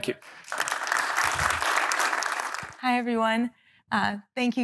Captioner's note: applause